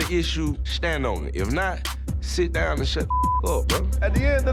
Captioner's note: beep